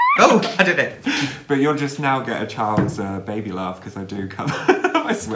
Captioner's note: baby's laugh